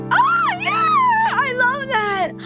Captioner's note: squeals